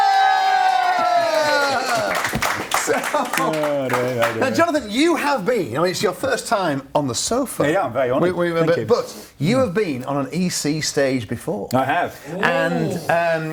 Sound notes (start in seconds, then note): 1.7 audience applauds; 2.7 laughter